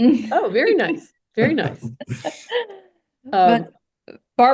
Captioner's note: laughs